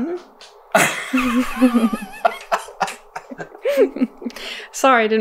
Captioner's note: chuckling; laughter